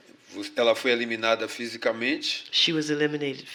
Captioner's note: speaking portuguese